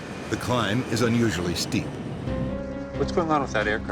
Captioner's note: voiceover